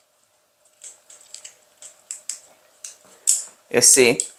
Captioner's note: light clicking